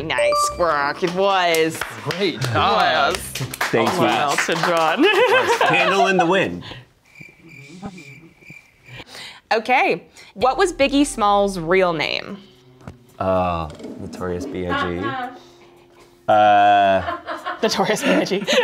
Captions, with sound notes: - Very nice, rock, it was. - Great job. - Thank you. - Sir Elton John. - "Candle in the Wind". (crickets chirping) - Okay. What was Biggie Smalls' real name? - Notorious BIG... - Notorious BIG?